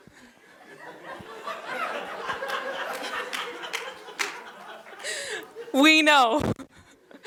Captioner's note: laughter